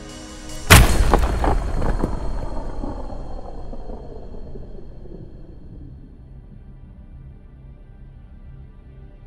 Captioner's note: explosion